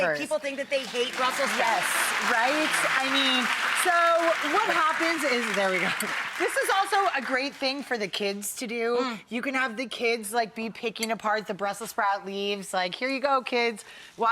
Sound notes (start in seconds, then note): 0.7 audience applauds